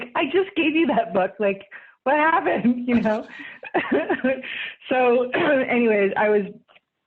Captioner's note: laughs